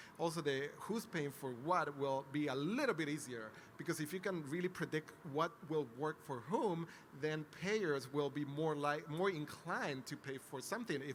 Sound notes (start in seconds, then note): none